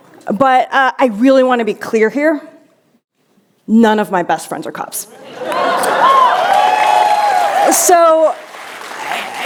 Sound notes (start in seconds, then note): 5.2 cheers